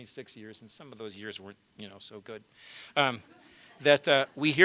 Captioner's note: laughter